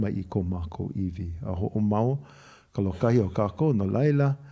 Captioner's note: cough